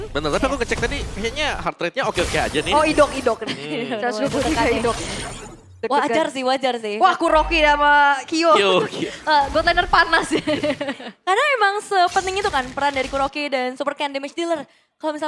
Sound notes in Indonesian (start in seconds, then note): 10.1 tertawa